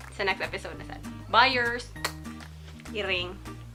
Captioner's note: mwah